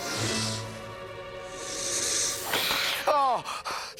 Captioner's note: panting